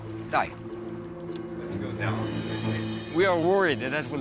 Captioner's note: talking softly